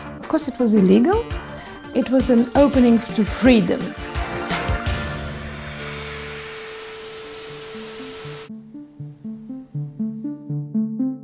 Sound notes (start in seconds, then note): 5.6 TV Static; 9.0 electronic instrumental music